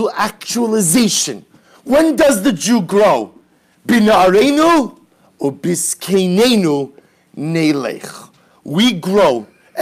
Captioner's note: Hebrew